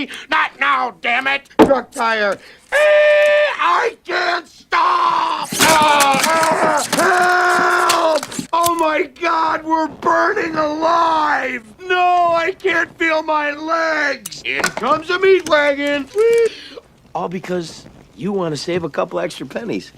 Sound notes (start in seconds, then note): 2.7 makes screeching noise; 5.3 items crashing noise